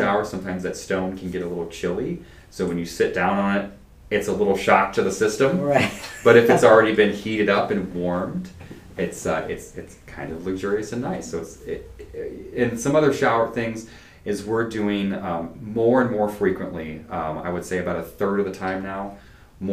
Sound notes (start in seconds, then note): 5.5 laughs